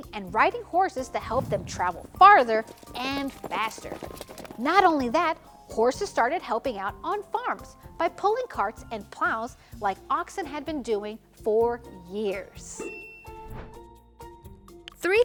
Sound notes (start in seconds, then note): 12.8 bell dings; 13.4 transition whooshes